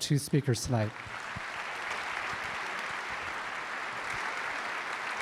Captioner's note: audience applauding